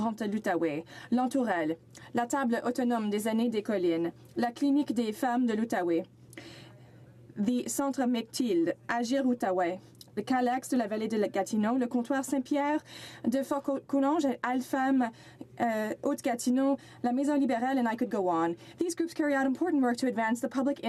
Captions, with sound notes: I'M THINKING IN PARTICULAR OF THE (Speaking French)